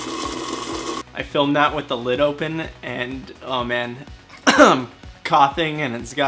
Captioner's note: coughs